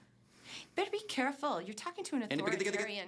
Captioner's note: tutting